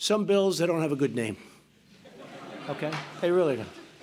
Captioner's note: laughter